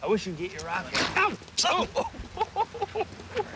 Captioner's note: yells; laughs